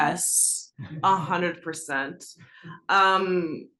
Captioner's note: laugh